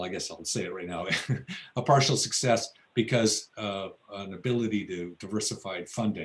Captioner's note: laughs